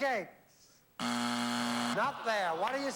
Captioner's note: buzzer